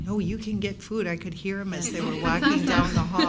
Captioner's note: everyone laughs